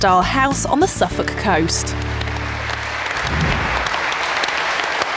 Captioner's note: audience clapping